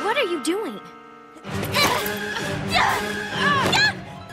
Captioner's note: both grunting